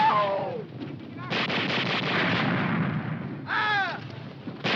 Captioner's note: soldier screaming